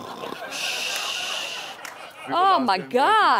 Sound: imitates snoring; audience laughing

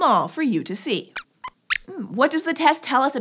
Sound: squeaks squeaks

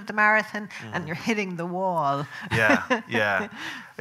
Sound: laughing

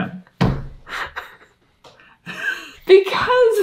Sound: laughing

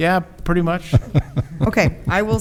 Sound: laughs

